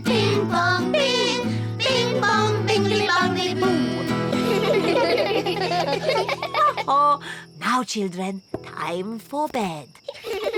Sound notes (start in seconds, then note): 3.7 all giggle